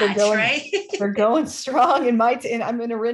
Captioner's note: laughter